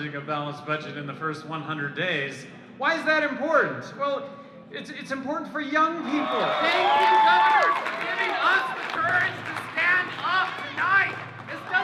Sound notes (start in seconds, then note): 6.0 crowd cheering, applauding